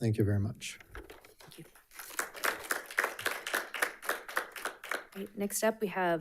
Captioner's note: audience applauding